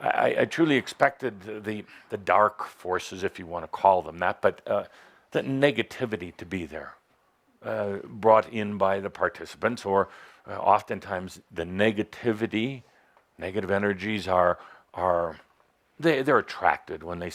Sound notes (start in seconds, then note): none